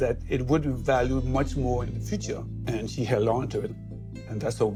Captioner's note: none